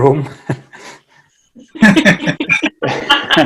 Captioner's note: laughing